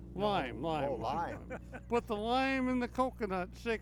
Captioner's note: laughs